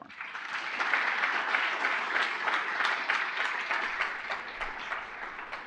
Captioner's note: applause